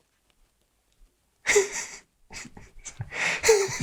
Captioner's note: Max laughs